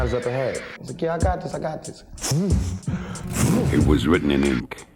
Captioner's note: imitates engine revving